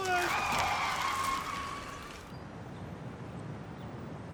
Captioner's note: tires screeching